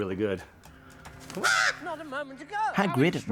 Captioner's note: caws